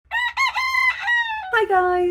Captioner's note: cockerel crowing